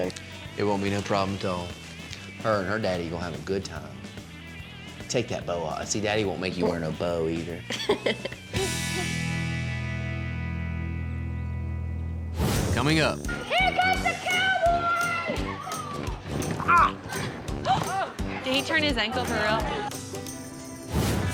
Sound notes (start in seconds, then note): 7.6 laughing; 16.4 groans